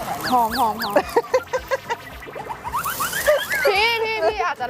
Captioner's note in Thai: เสียงหัวเราะ